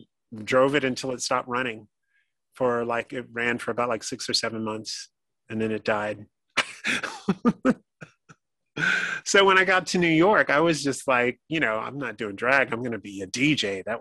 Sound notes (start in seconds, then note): 6.6 laughing